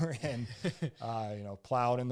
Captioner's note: both laugh